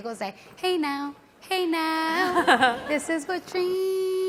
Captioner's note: audience laughs